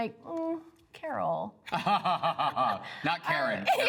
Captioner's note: laughs